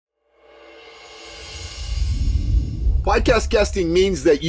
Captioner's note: air whooshing